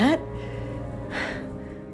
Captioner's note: June exhales